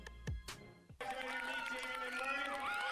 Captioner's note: cheering